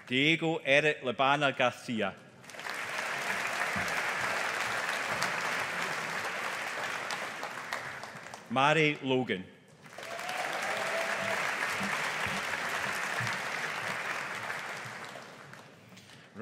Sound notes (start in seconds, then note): 2.4 audience applauding; 9.8 audience applauding